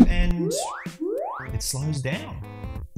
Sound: alarm ringing

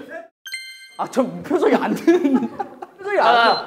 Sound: laughing

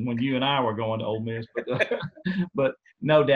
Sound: laughter

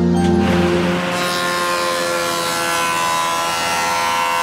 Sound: giant blade whirring

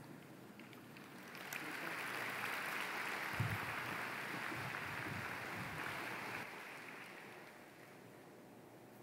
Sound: applause

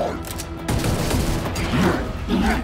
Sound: guns firing

